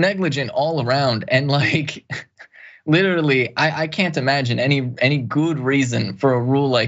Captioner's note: laugh